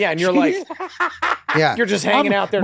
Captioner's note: Danny laughs loudly